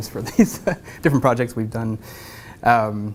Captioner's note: laugh